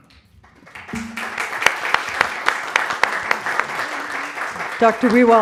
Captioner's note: applause